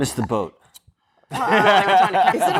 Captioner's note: laughing